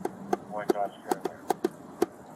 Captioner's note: radio chatter